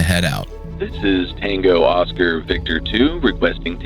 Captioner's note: staticy radio voice